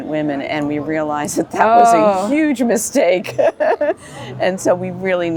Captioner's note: laughs